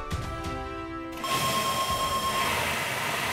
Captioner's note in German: langer Ton